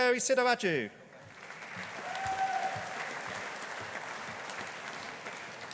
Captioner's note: audience applauding